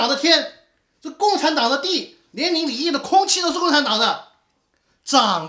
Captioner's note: breathing